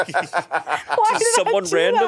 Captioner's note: all laughing